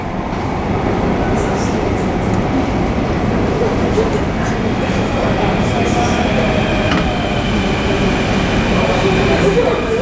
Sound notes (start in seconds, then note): 0.2 sounds of train approaching station, coming from tunnel; 5.9 train arrives